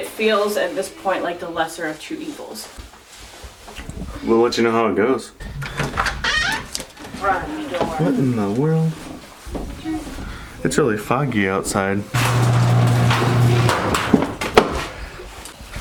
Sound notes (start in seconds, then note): 5.5 door creaking open; 12.1 garage door opening